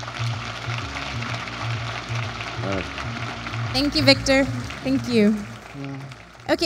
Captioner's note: applause